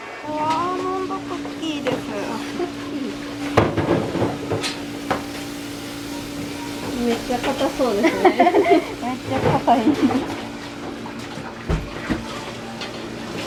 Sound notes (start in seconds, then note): 7.7 laughs; 8.0 laughter